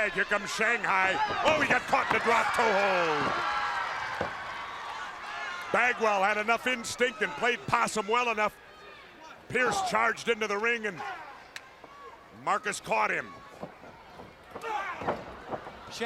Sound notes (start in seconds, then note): 3.2 crowd cheering